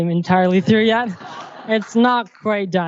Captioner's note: crowd laughs